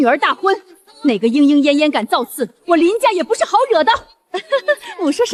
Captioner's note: sobs